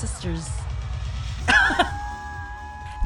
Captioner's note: laughs